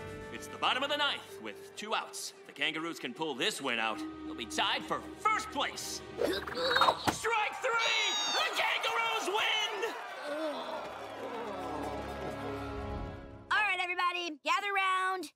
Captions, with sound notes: It's the bottom of the ninth, with two outs. The kangaroos can pull this one out, they'll be tied for first place [grunting] Strike three! The Kangaroos win! [groaning] Alright everybody, gather 'round.